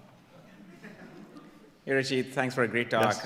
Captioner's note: audience laughing